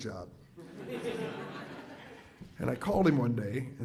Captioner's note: audience laughs